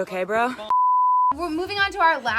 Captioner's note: beep